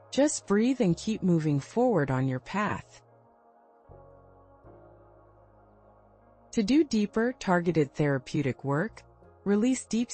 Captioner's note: pause